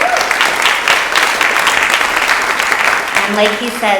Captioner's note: audience applauds